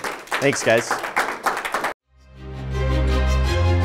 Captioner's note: applause